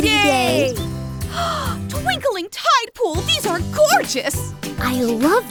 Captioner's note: gasps